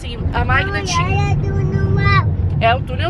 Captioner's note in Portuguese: balbuciando